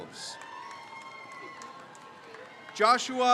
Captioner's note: crowd cheers